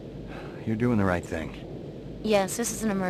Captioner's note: sigh